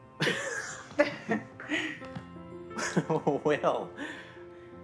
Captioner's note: Alex laughing